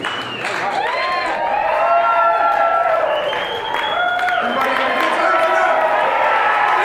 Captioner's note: cheering